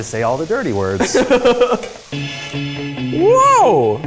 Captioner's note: laughing